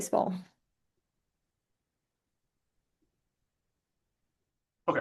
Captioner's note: silence